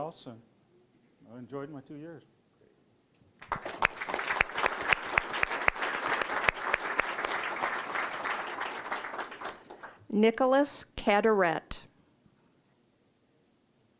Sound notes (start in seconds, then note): 3.4 applause